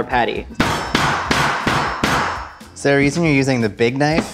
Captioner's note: knife hitting board